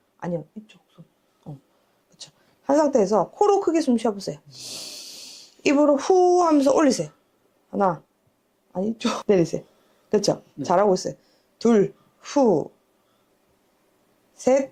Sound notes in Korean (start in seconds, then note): 4.5 콧방귀